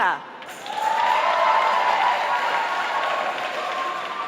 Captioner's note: applause